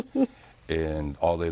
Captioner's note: laughs